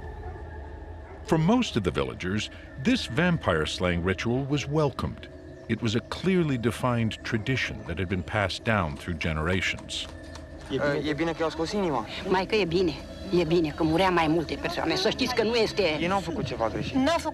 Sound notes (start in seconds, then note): 10.6 man speaks Romanian; 12.1 speaking Romanian; 16.1 man speaks Romanian